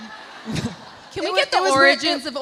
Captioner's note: audience laughs